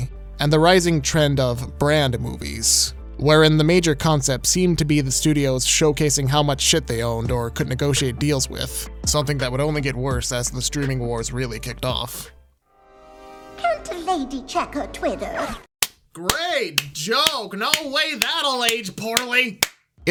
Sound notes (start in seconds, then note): 17.6 clapping